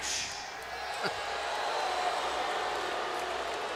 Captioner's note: crowd boos